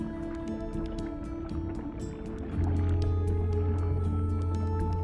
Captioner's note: water bubbling